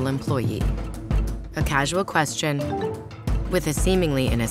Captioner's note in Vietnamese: tiếng báo tin nhắn